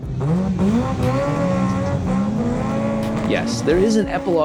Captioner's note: car revving